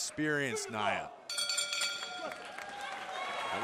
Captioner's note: bell ringing